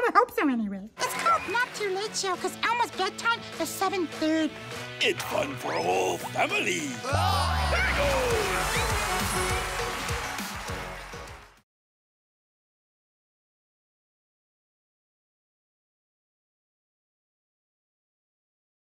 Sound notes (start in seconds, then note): 6.8 Jimmy Fallon exclaims; 6.8 crowd cheering; 8.1 upbeat music